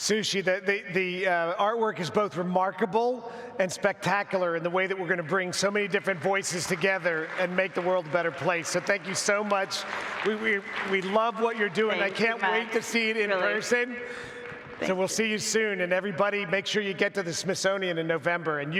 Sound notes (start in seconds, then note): 6.8 audience applauds